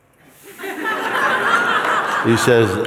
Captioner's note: laughter